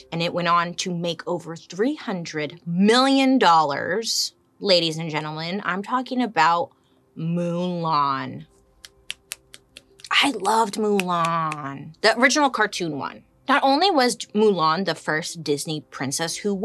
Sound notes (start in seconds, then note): 8.8 clicking fingers